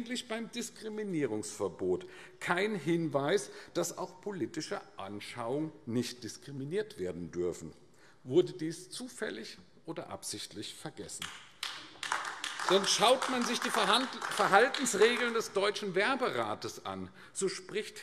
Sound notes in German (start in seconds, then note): 11.2 Beifall AfD